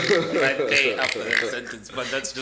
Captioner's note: everybody laughs